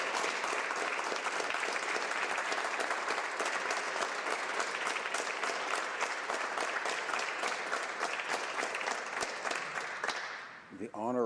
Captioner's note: applause